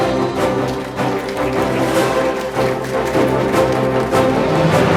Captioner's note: attendees applauding